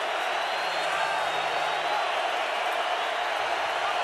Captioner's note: crowd cheering